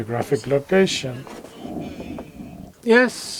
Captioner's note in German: spanisch